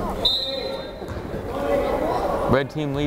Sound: whistle blows

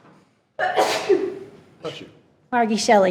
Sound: attendee sneezes

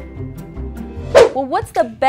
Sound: swooshing

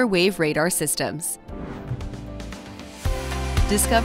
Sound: frame whooshes; bright upbeat music

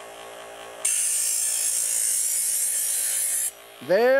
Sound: knife sharpens

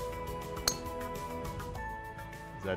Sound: ping!

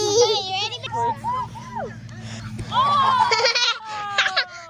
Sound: distant shouting

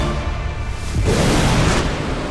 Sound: whooshing sound

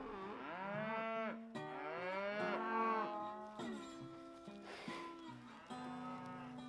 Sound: cows mooing

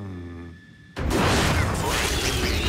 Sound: crash

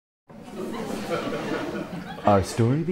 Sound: sound of laughter

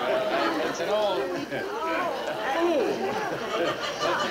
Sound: audience laughing

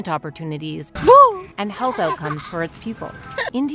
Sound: boo

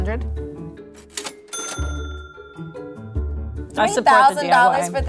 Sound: cash register rings

